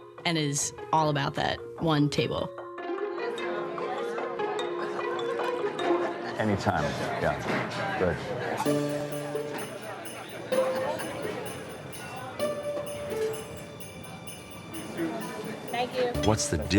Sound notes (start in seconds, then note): 2.8 curious music; 2.8 patrons chattering; 8.6 curious music; 8.7 patrons chattering